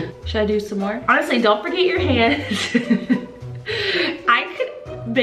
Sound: laughs

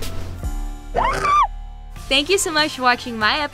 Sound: screaming

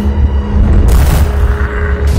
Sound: bam

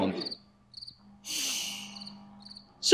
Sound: crickets

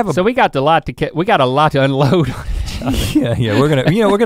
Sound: laughs

